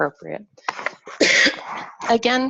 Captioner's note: coughs